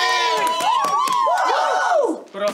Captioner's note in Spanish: Gritos